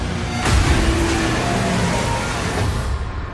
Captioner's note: demonic roaring